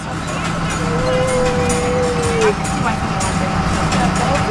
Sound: motor running

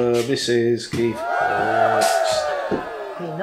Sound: cheerin

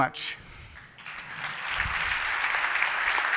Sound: applause

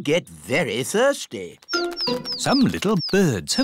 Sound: tweeting

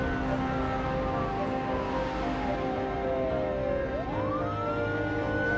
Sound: sirens wailing in distance

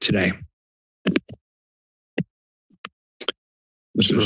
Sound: mic thumps

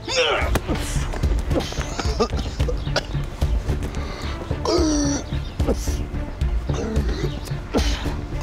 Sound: moans

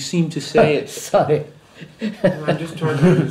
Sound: laughs

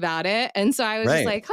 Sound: laughs

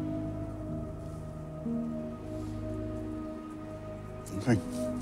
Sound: inhales sharply

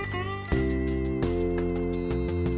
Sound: rings tricycle bell

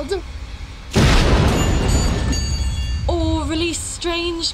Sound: experiment explodes

